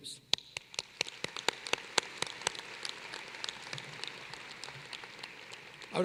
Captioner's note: applause